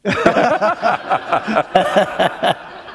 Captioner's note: chuckle